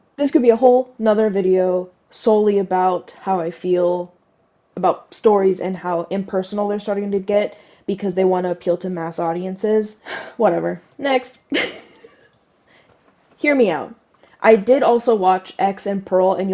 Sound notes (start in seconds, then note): 11.5 laugh